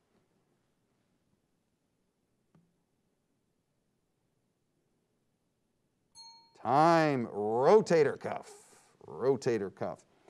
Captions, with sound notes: (timer dings) Time. Rotator cuff, rotator cuff.